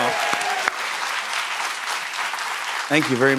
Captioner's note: cheers and applause